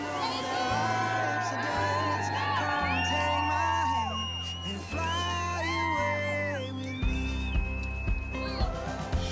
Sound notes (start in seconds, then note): 0.2 group cheering; 2.6 person whistling; 6.5 upbeat music